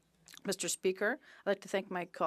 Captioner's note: speaking French